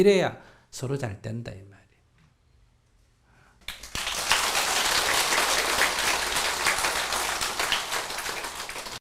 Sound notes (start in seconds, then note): 3.6 applause